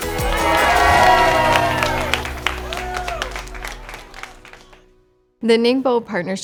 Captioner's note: group cheers; crowd applause